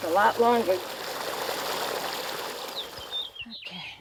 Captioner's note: water splashing